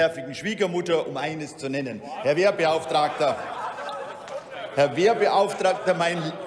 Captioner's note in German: Heiterkeit bei Abgeordneten der SPD und der CDU/CSU